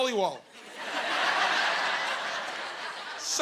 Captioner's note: laughing